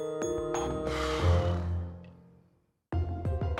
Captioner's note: sighs